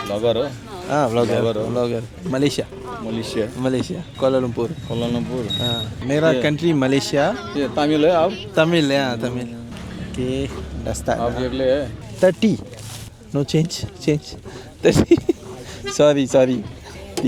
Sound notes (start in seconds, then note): 6.0 speaking Nepali; 14.9 laugh